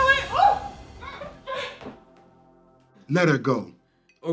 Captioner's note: Michelle screaming